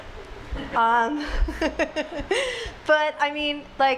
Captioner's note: laughs